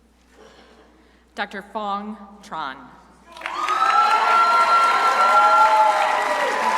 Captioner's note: crowd applauding